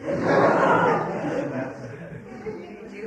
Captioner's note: laughter